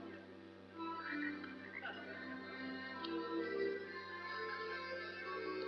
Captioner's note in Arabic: نعيق الضفادع